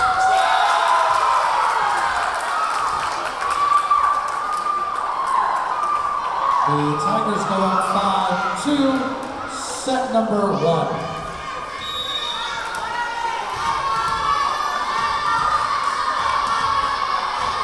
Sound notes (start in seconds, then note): 0.0 clapping; 0.9 cheering; 11.8 whistle blowing; 15.4 yelling